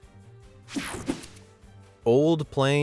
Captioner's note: air whooshing